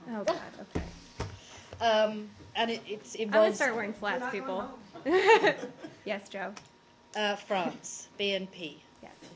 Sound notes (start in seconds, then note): 5.0 laughter